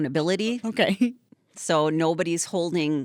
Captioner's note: chuckling